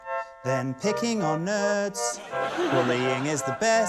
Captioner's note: laughter